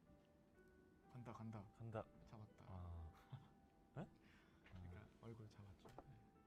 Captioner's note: haha